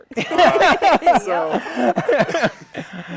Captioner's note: laughter